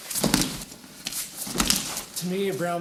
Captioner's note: soft thudding